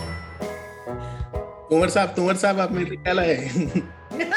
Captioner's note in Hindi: तुतलाते हुए